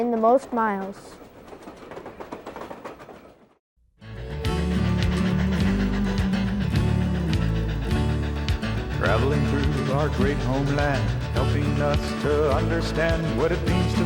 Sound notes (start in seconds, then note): 2.2 train chugging; 4.6 cheerful music